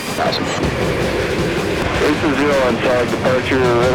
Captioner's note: military chatter